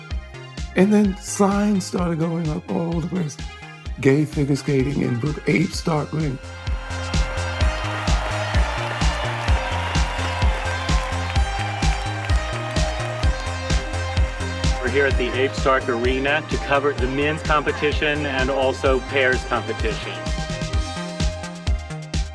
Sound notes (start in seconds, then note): 6.6 audience cheering; 6.6 bouncy pop music; 10.9 audience applauding; 20.6 energetic pop music